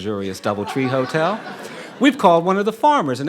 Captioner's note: audience laughing